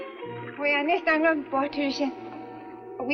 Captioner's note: Ann speaks Swedish